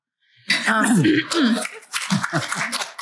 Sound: clears throat; applause; laughter

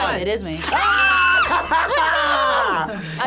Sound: group screams; laughs

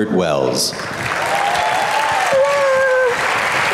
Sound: applauds

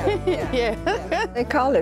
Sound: laugh

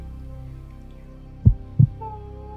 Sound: heartbeat

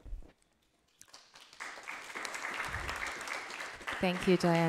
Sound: audience applause

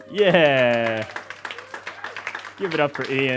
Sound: audience applause

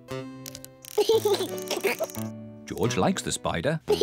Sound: laughs

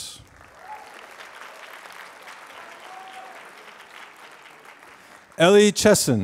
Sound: applause

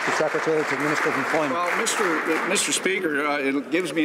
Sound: some Applause

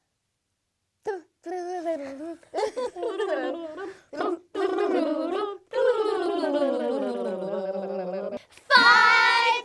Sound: blowing raspberries to the tune of " "

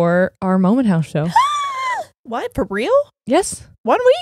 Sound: squeals

